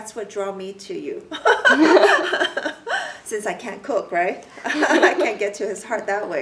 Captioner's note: everyone laughs; everyone laughs